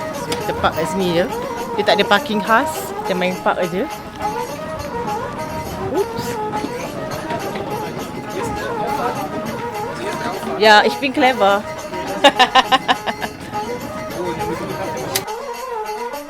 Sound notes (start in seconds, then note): 8.3 speaking German; 10.6 laugh; 10.6 speaking German